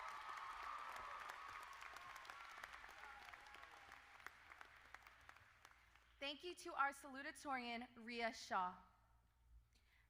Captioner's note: applause